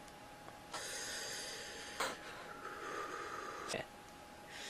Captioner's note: Tsukasa takes a deep breath